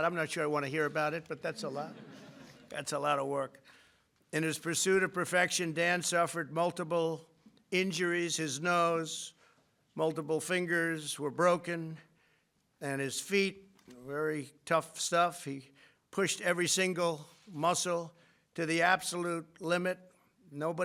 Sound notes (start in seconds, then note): 1.2 laughter